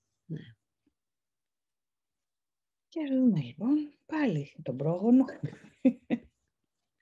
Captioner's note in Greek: γέλιο